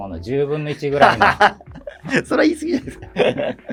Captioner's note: laughing